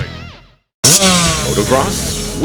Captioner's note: engine roaring